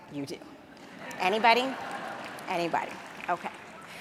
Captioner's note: audience laughs; audience claps